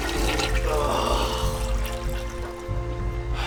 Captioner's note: toilet flushing; Drew groans; sighing over dramatic instrumental rock music